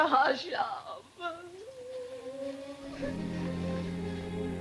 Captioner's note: sobs; mellow music